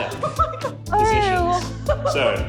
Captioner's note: laughing